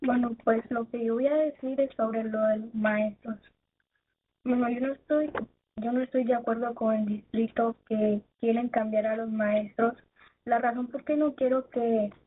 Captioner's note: speaking in spanish